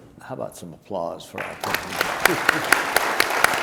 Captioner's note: drowns in applause